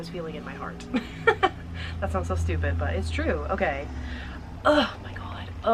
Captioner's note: laughing